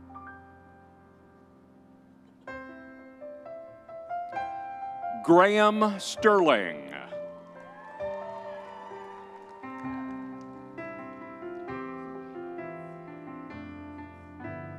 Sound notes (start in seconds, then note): 7.3 crowd cheering